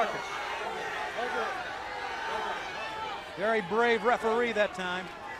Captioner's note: crowd chatter